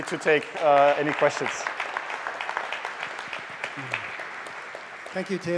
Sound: applause

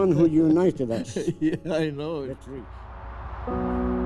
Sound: laughing

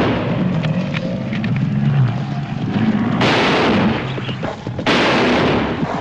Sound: gunshots

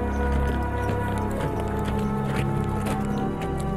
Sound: horses walking

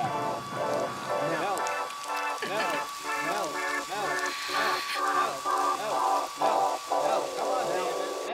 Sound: dripping

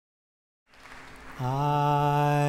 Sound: audience claps

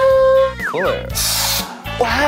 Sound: spraying

